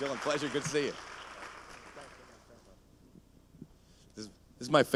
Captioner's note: applause